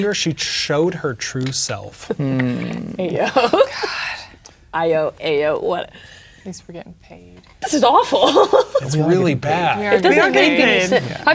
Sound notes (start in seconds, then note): 2.0 laughing